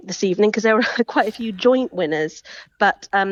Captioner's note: chuckles